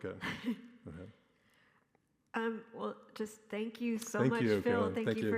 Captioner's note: laughs